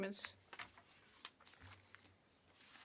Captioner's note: speaking French